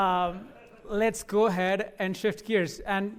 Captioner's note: laughter